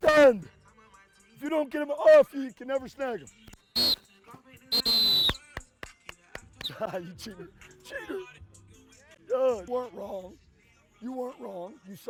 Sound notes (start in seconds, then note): 4.7 whistle blowing; 5.2 clapping